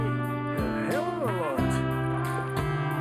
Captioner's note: faintly speaking; soothing music